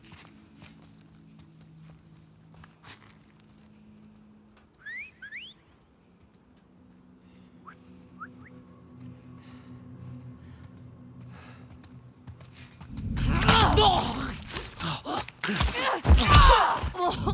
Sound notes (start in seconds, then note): 4.7 alert Whistles!; 8.2 hushed whistle